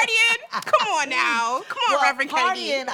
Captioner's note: laughing